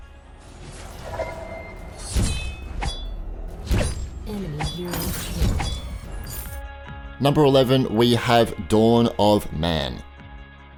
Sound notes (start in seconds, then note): 1.8 swords clanging; 4.7 computer voice mumbling